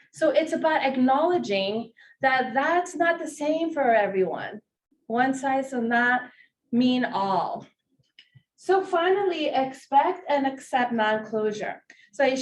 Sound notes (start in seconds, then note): none